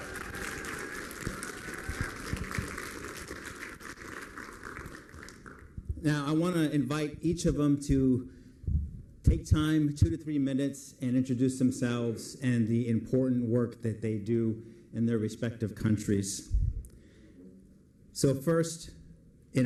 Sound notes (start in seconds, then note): 2.2 applause